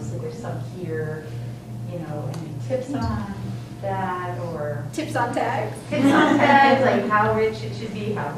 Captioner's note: laughter